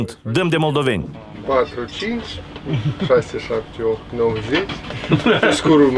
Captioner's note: counting in Romanian